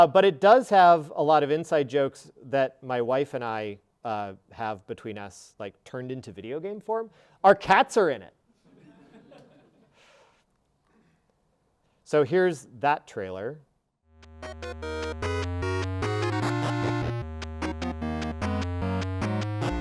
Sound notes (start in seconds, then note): 8.8 audience laughing; 14.2 lively electronic video game music